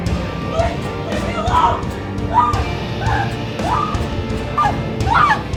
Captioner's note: screams